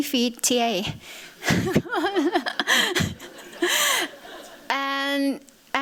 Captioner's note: laughter